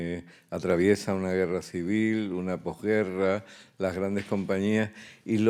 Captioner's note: speaking in Spanish